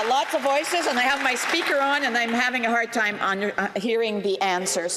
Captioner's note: some Applause